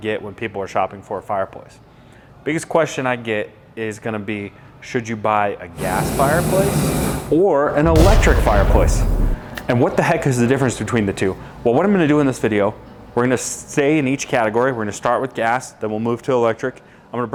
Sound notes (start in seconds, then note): 5.7 gas fire noise; 7.8 electric shock